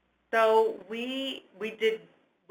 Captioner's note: voiceover